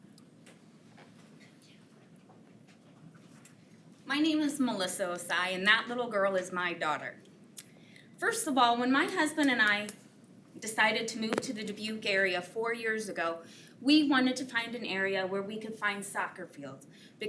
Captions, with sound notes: (unmiced voice talking) - My name is Melissa Osai, and that little girl is my daughter. First of all, when my husband and I decided to move to the Dubuque area four years ago, we wanted to find an area where we could find soccer fields